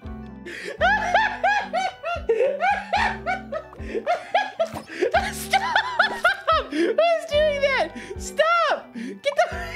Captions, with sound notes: [still laughing] Stoooop! What is doing that?? Stop! Get the- [wheezing]